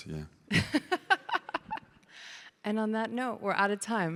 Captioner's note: laughs